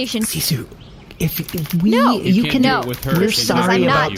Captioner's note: quietly to Seesu